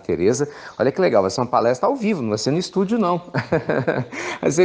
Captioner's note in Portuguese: risos